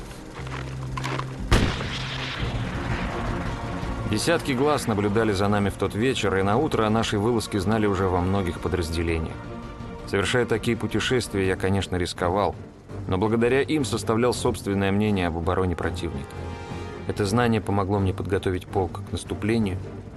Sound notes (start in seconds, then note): 1.4 rocket firing